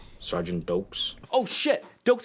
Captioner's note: excited